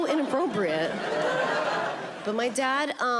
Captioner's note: audience laughing